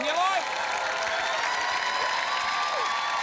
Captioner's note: cheering, applause